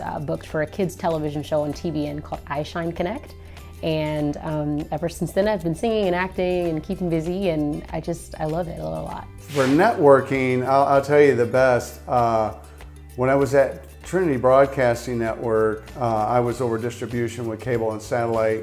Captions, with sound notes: I was booked for a kids television show on TBN Called "I Shine Connect" And ever since then I've been singing and acting and keeping busy I just I love it a lot *Whoosh* For networking I'll tell you the best When I was at Trinity Broadcasting Network I was over distribution with cable and satellite